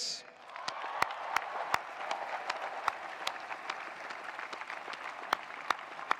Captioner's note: attendees applauding; attendees cheering